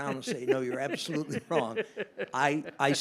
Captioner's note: laughs